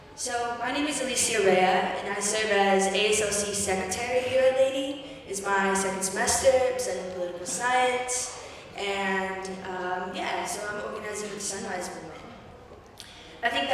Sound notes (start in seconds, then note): none